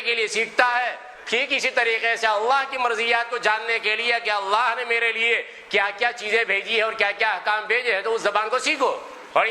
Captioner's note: Arabic